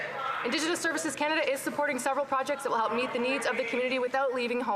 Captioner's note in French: voix de l'interprète